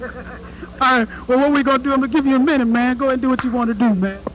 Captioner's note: laugh